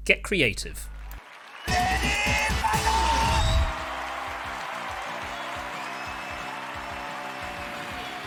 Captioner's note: crowd cheering